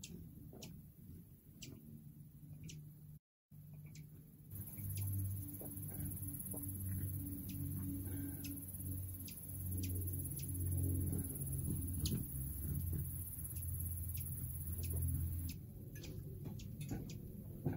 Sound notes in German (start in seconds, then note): 4.5 Geräusch der Flügel eines Kolibris; 14.5 Vogelgezwitscher